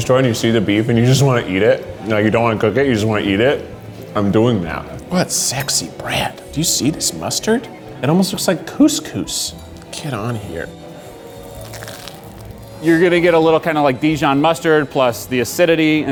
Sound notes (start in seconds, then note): 11.2 toast crunches